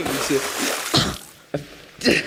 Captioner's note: water splash